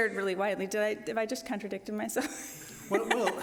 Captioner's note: laughs